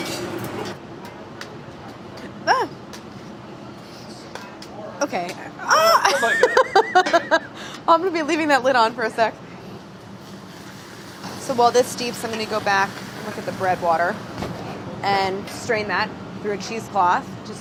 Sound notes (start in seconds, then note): 5.6 laughs